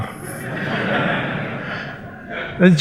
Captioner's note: laughter